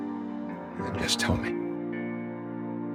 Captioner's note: voiceover